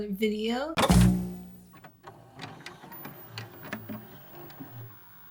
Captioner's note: VCR noises